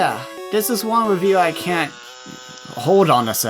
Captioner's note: printing noise